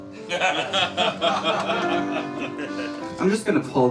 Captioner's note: laughs